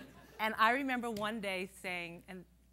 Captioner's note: laughter